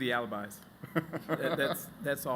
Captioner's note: laughter